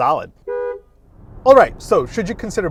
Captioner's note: car horn honking